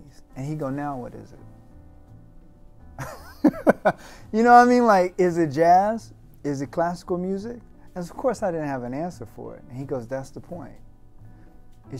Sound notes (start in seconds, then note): 3.0 laughing